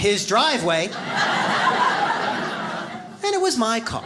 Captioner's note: audience laughs